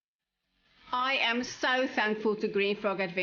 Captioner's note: narrating